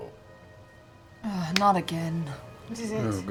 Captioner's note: groans